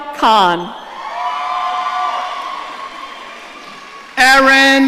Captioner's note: audience cheering